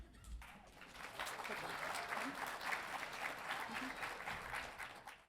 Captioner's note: audience applauding